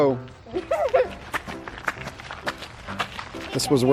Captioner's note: girl laughs